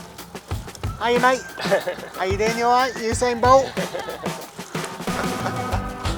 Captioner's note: laughs